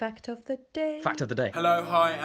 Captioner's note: voiceover